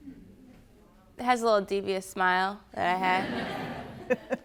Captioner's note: audience laughing